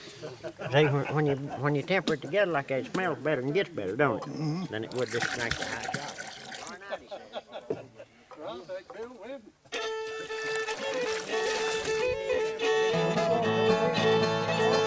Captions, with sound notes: - See when you temper it together like that, it smells better and get's better don't it? Than it would just to drink the high shots. (people chatting) (upbeat bluegrass music)